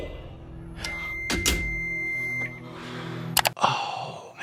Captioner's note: announcer speaks in Korean; alarm beeps; door lock clicks